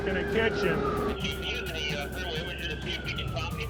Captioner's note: man, over radio